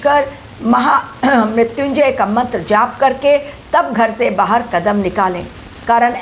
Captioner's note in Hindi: गला साफ़ करने की आवाज़